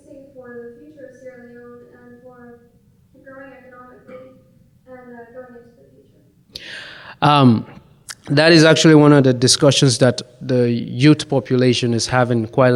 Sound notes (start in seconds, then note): 5.9 murmurs